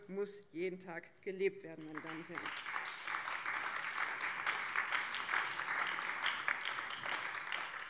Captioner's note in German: Beifall BÜNDNIS 90/DIE GRÜNEN